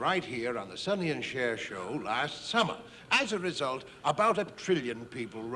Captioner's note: none